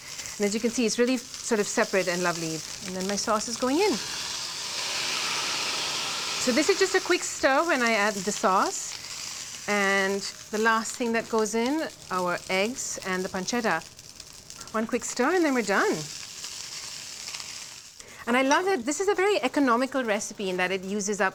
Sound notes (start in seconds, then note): 4.0 loud sizzle